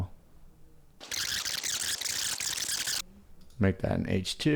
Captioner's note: rapid beeping